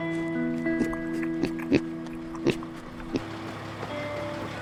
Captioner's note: Otis grunting; diesel engine softly chugging